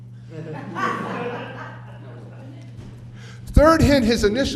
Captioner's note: off camera chatter and laughter